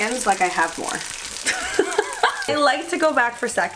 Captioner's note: laughing